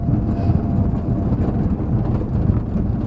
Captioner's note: engine, road noise, interior rattles